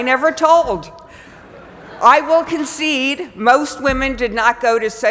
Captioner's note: laugh